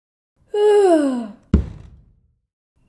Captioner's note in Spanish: ruido sordo